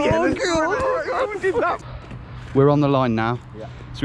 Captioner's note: both cheering